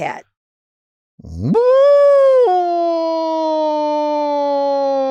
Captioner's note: Delta purring